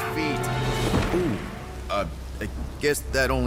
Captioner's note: thud